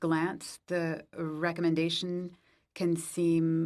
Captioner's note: speaking French